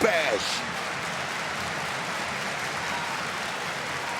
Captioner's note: crowd cheers